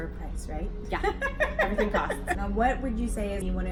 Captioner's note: laughs